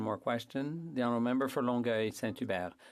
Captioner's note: speaking French